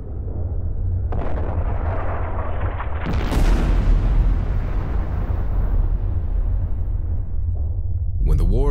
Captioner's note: cannon fire